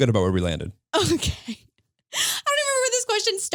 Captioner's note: laughs